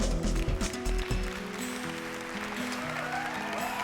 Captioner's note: applause and cheering